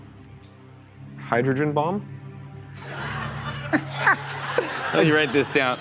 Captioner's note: laughter